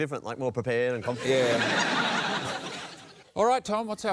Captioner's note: laughter